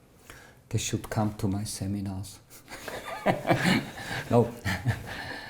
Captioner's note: laughter